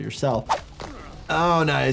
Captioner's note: finger crunches